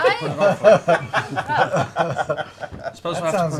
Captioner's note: laughter